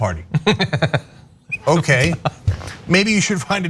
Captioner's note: laugh